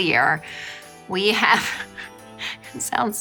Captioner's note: giggling